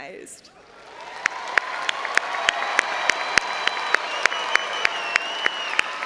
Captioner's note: all applauding and cheering